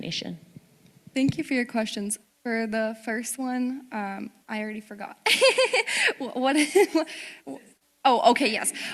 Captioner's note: laughing